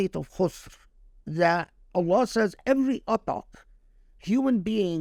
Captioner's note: speaking Arabic